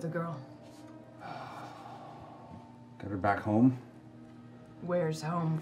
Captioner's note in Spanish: suspira